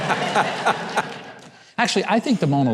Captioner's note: laughing